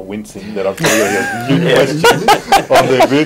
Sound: laughing

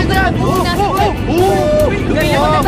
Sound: Johnny screams

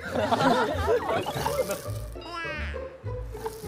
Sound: laughing out loud

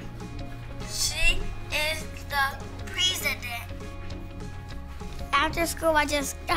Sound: on audio recording playback

